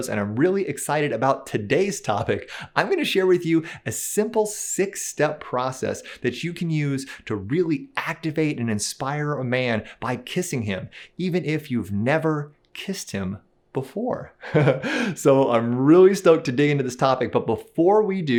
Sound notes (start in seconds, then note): 14.4 laughs